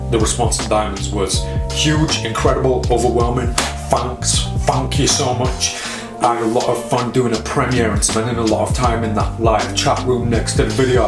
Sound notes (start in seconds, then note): 3.6 claps